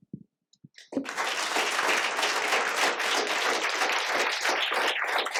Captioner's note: applause